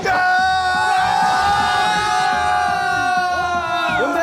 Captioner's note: Mereka ikut bersorak!